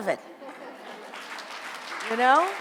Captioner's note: audience applauds